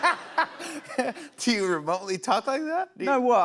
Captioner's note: laughter; normal voice